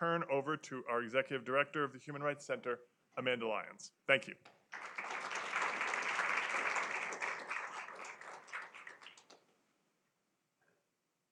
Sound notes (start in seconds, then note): 4.7 applause